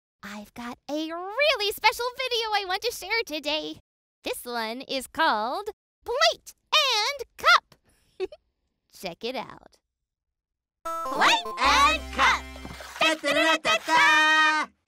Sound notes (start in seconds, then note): 8.2 giggle